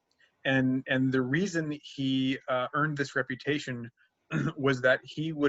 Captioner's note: clears throat